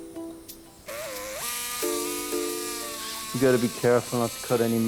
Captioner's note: drill buzzing